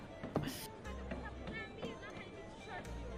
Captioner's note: laughs